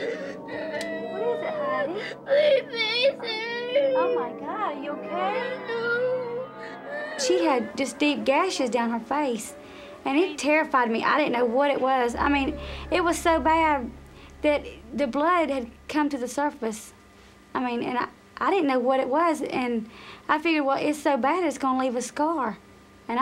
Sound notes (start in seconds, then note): 0.0 crying